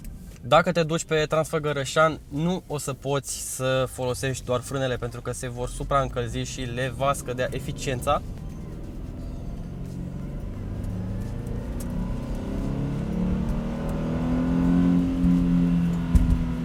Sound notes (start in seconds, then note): 9.9 boxer engine revving up